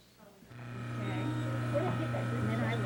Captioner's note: machinery grinding